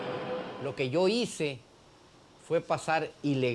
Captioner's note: speaking spanish